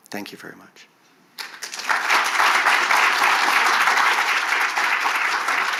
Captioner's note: audience clapping